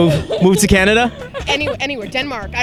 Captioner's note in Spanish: Risas